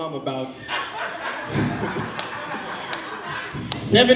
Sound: audience laughs

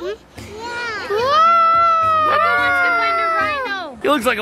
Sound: imitating an elephant

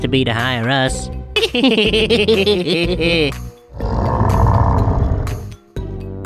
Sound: Sheldon sighs in annoyance

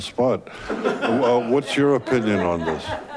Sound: laughing

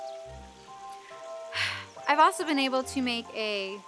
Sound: sighs

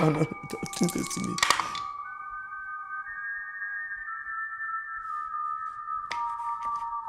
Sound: tense ominous music; dice rattling

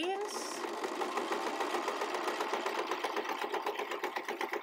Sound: sewing machine clattering

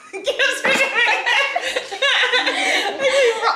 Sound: laughing

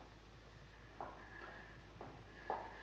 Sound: footsteps

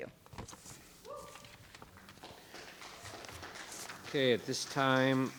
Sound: audience applauding

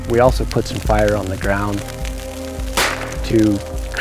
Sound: flare gun shoots

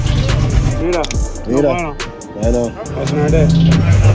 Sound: men speaking foreign language

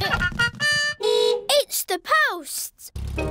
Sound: horn beeps

